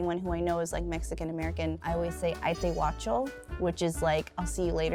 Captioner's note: foreign language